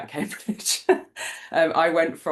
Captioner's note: laughs